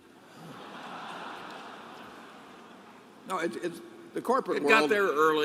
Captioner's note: laughter